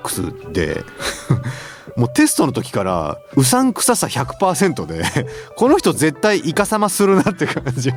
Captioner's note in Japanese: 笑い